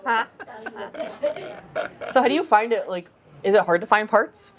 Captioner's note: laughing